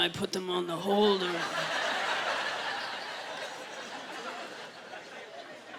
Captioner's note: laughter